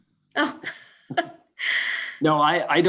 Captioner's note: laughs